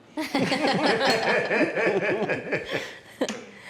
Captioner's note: everybody laughs